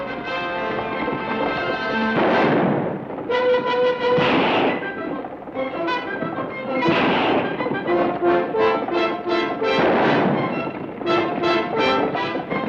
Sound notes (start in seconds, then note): 1.9 gun fires; 7.0 gun fires